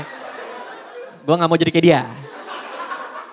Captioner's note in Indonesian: Audience Tertawa